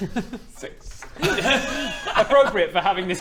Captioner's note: laughs